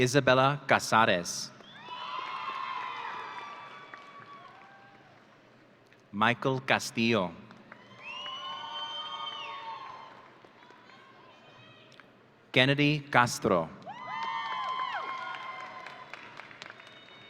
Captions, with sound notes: Isabella Casares. (audience cheering) Michael Castillo. (audience cheering) Kennedy Castro. (audience cheering)